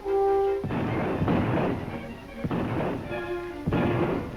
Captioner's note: gunshot firing